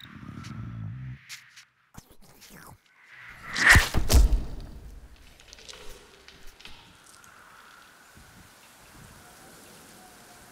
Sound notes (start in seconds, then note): 1.9 slurping; 3.9 slamming